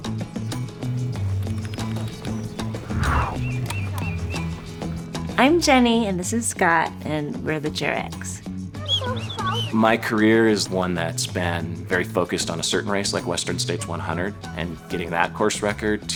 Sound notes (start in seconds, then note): 1.7 typing